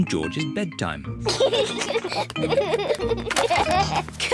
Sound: both giggle

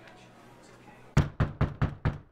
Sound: loud knocking

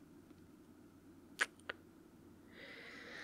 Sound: kiss

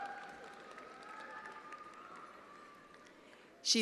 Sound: attendees applauding

